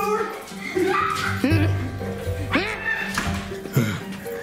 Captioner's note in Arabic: الصراخ